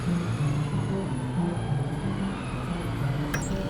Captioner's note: siren wailing